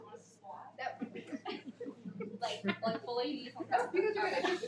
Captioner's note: audience laughing